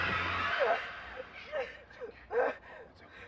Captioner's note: gun bangs; gasping